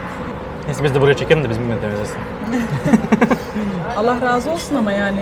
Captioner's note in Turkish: kahkaha